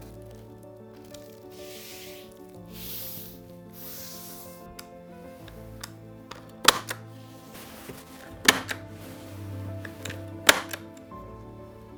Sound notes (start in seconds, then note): 1.7 hand swishing; 6.7 stapler clicking